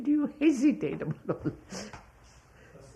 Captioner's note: laughs